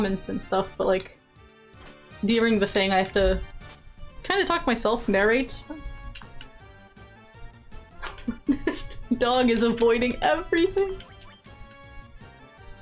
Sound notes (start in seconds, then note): 8.0 laughs